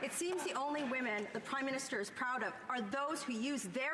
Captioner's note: some Applause